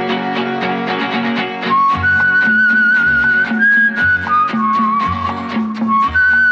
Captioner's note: Whistles